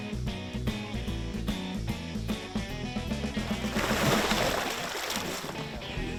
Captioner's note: alligator splashing